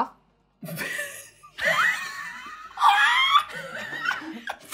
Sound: laughing

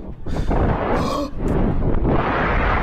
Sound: gasps

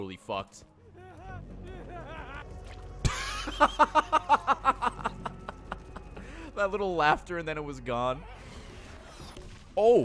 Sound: laughs; laughter

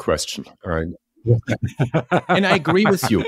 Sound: laugh

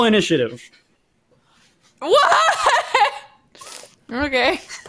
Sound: laughs

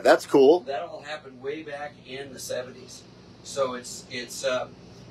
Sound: none

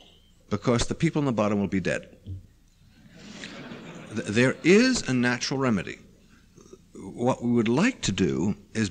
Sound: laughter

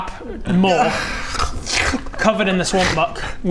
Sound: snarl

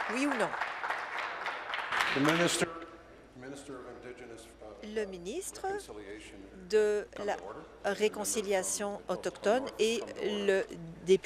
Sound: applause

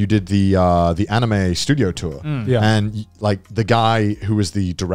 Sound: none

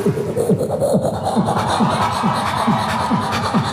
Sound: foreign language; beatboxing

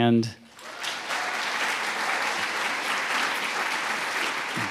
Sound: audience applauds

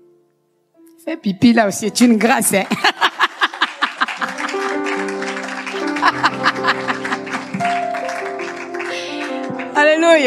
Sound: laughs; applause

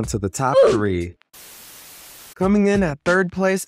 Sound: static buzzing

